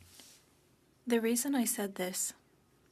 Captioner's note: speaking french